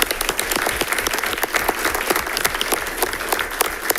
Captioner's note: audience applauding